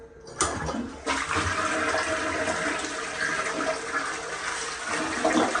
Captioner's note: flushing sound